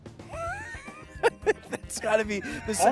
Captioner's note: laughs